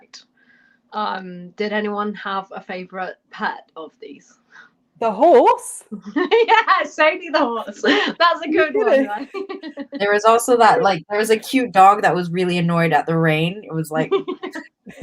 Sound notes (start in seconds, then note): 5.9 laughter; 9.6 laughter